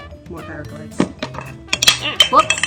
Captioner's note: lens cap falls